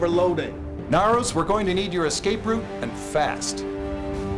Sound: none

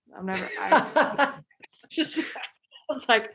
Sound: laughing

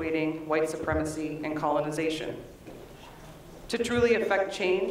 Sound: none

